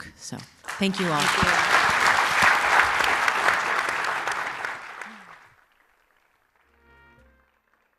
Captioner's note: applause